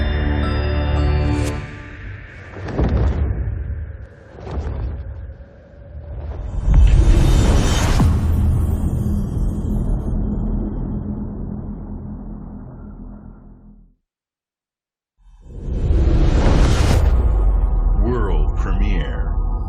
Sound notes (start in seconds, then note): 3.4 wind whipping; 7.8 dramatic sound